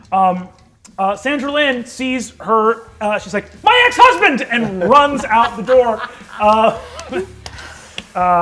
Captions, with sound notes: Sandralynn sees her, she's like, my ex husband! And runs out the door. (laughter)